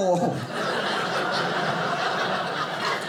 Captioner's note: audience laughing